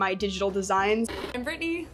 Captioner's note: TV noise